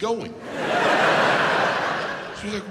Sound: audience laughs

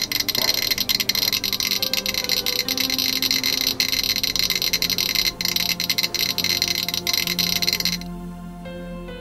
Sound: geiger Counter begins clicking very rapidly; geiger Counter continues clicking like crazy

